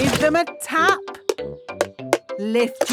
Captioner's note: taping